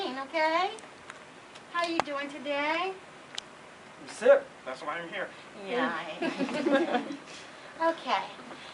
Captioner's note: laughter